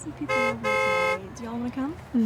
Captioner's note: car honking